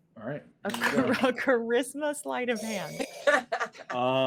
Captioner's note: chuckling